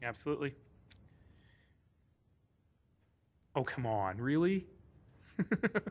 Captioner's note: laughing